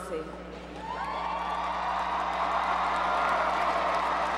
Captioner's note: crowd cheers